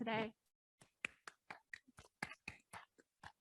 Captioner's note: claps